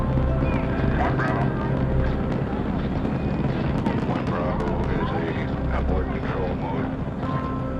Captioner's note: rocket roaring; people talking on radio